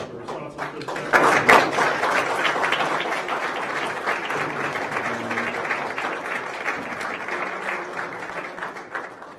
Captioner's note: applause